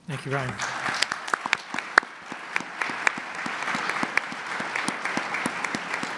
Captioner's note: audience applause